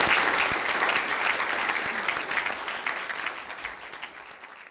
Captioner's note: audience applause